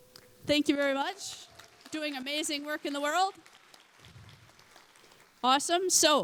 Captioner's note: applause